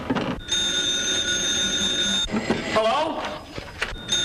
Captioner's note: phone ringing